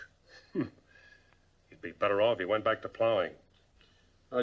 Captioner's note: scoffs